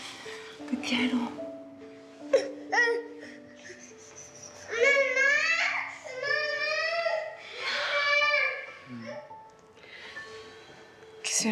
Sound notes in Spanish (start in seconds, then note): 5.9 Llanto de bebé